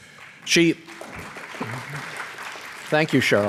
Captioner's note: applause